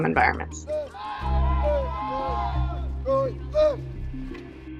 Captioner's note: recruits yell